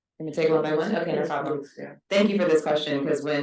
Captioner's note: speaking faintly